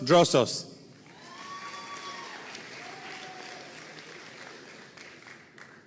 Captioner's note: audience cheering and applauding